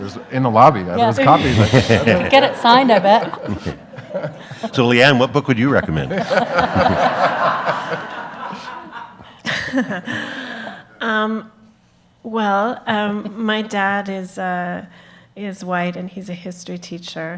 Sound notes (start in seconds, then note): 0.0 audience laughs; 6.8 audience laughs; 9.9 laughs